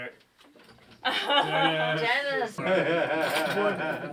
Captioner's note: laughter